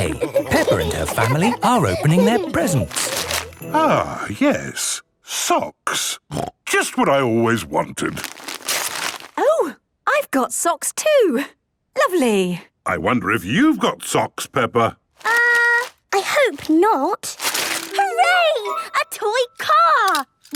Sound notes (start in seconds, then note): 8.2 tearing